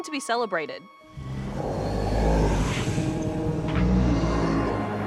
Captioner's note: deep, sinister voice